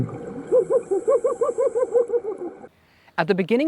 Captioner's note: excited laughter